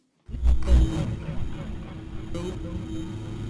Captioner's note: buzzing